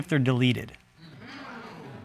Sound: audience exclaiming

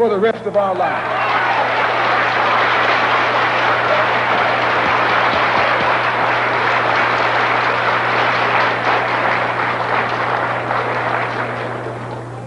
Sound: applause

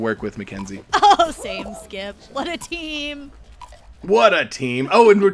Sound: chuckling

